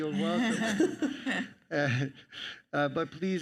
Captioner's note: panelists laugh